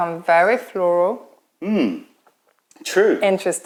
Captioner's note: sips tea